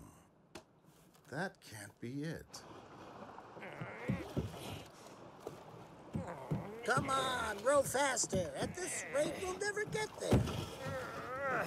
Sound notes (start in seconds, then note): 3.6 yago groans